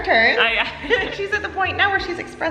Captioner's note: laughing